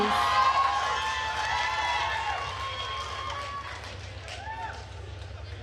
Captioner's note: attendees cheering and applauding